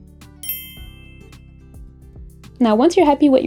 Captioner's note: bell dings